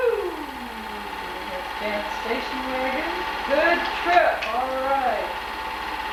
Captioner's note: clapping